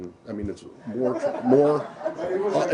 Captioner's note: laughter